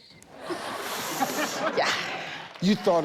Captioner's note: audience laughs